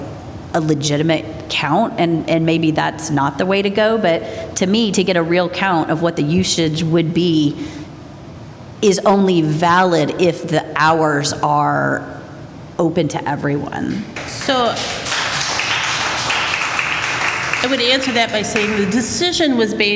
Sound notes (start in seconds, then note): 14.1 applause